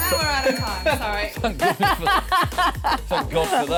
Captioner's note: laughter